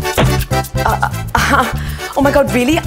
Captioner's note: Chuckles